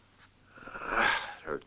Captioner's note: groans